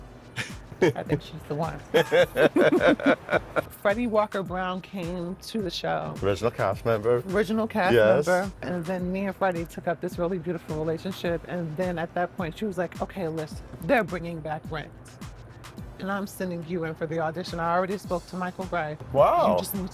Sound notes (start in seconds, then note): 2.2 both laugh